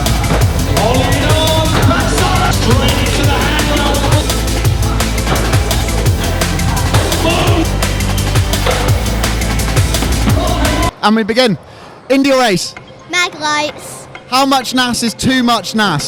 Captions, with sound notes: (crowd cheering) - And we begin. Indy or Ace? - Mag lights. - How much NAS is too much NAS?